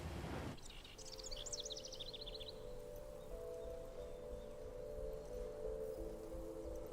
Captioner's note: gentle music; birds chirping